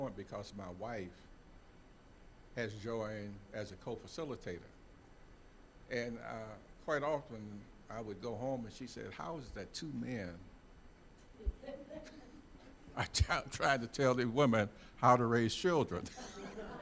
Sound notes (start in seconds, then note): 11.6 all laughing